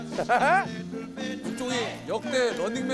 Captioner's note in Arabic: الضحك